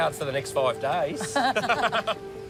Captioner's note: both laugh